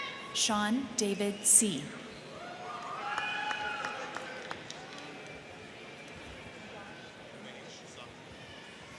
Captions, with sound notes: Sean David Sy. (crowd cheering)